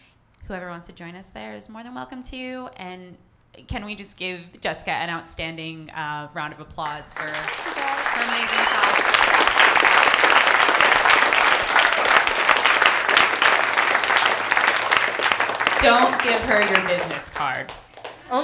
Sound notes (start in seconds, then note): 8.9 audience clapping and cheering